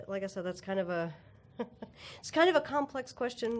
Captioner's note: chuckle